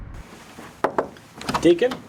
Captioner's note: knocks